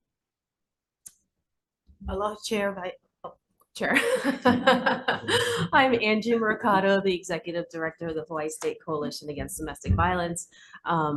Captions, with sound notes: - Aloha Chair. (laughs) I'm Angie Mercado, the executive director of the Hawaii State Coalition Against Domestic Violence.